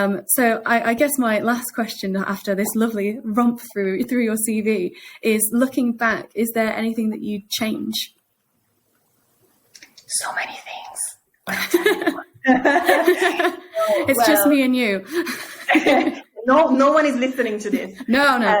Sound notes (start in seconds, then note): 11.5 both laughing